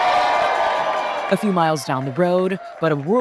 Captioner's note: cheering